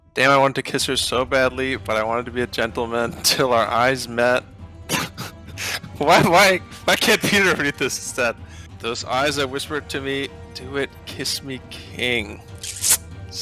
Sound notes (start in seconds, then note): 6.7 laughing